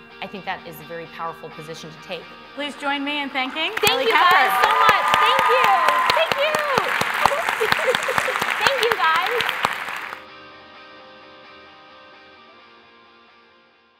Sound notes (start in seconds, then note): 7.2 applause